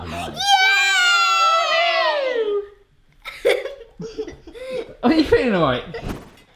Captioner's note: exclaiming; laughter